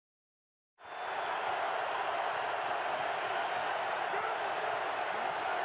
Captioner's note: cheering